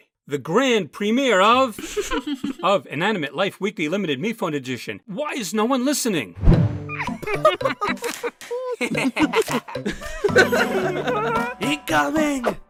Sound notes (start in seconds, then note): 1.8 more contestants laugh; 6.8 cabby and silver spoon laugh; 8.8 test tube and paintbrush laugh; 9.8 yin-yang and goo laugh